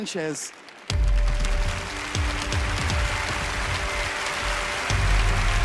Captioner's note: applause